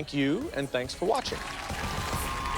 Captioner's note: cheers and applause